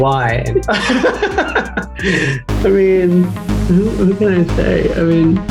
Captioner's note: countdown music; Michael laughing